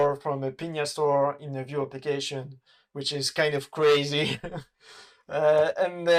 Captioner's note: laughs